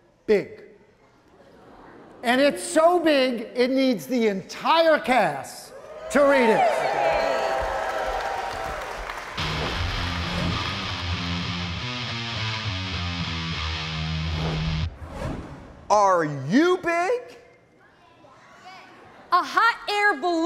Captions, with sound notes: And it's so big it needs the entire cast to read it. (audience cheering) (exciting rock music) - Are you big? - A hot air balloon is big.